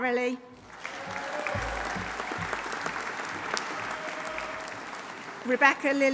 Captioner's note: audience applauding; audience cheering